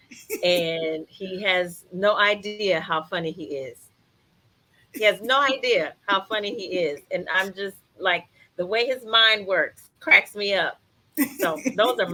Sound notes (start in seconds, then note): 0.1 laughs; 4.9 laughs; 11.2 laughs